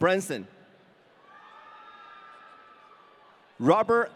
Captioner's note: audience cheering